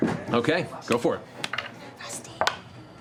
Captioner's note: whispers